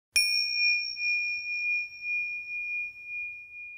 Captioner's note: bell rings